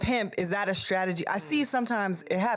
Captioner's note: none